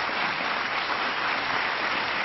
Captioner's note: applause